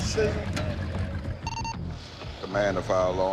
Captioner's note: indistinct chatter; radio chirps